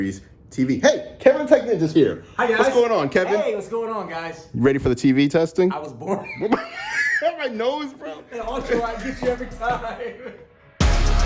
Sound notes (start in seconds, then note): 6.0 laughs